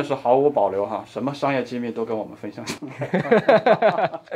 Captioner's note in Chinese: 笑～